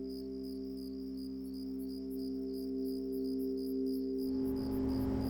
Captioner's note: engine whirring